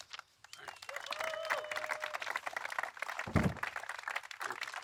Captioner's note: applause